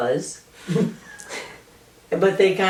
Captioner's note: laughter